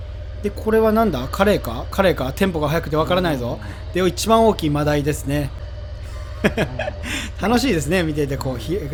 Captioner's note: haha